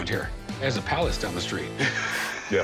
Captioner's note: laughs